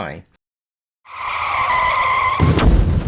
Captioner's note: car screeching; explosion